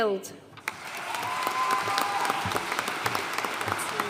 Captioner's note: audience applauding